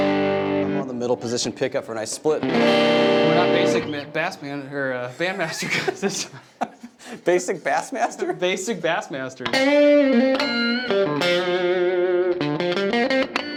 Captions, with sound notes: And I'm on the middle position pick up for a nice split. - We're not basic bass band master classes. (laughing) - Basic bass master? - Basic bass masters. (guitar music)